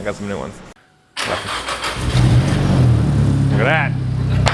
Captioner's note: engine turning over and starting